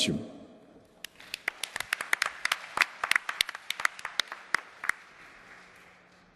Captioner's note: applause